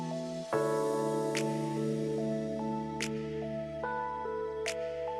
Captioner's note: fingers snapping